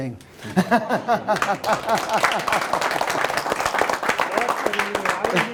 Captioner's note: applause, laughs